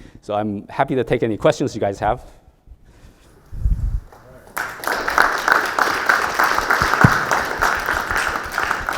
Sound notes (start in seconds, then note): 3.8 audience clapping